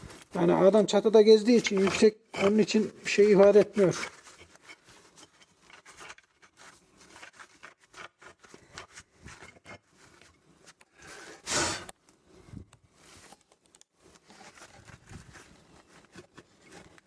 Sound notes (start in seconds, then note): 5.1 squeaking and rattling, clicking sounds; 11.3 blowing sound pufffff; 12.2 squeaking and rattling, clicking sounds